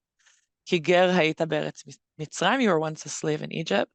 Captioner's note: speaks Hebrew